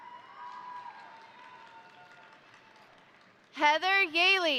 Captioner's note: crowd cheering; crowd applauding